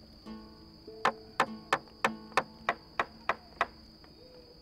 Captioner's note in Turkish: Tahtaya vurma sesi